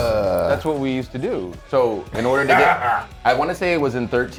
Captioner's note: laugh